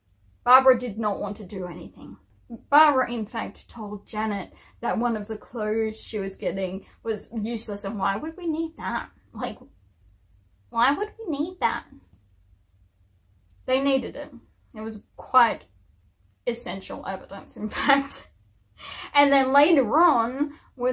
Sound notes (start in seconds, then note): 9.2 puts on prissy voice with attitude